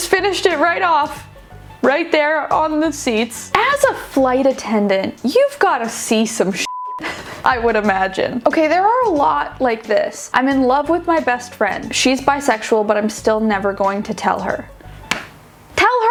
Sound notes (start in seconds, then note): 6.7 beeping